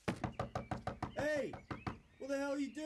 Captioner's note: Rob knocking